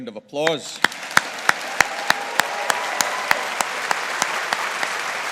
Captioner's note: audience applauding